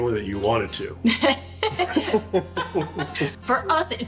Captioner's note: laughing